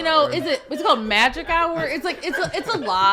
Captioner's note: podcasters laughing